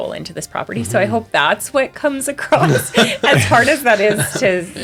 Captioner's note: laughs